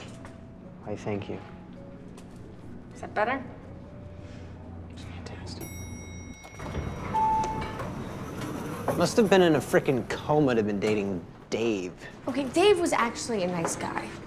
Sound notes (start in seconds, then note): 4.8 quietly